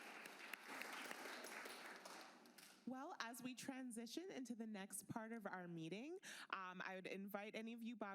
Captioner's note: applause